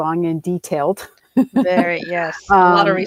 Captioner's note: chuckles